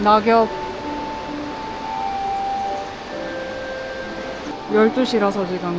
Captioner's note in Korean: 갑자기 울려퍼지는 알람